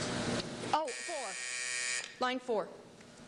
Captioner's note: buzzer